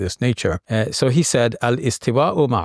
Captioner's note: talks Arabic